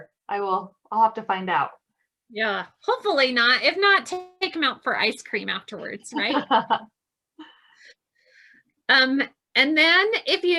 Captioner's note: laughs